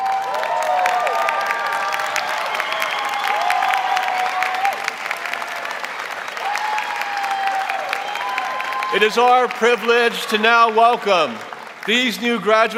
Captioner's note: applause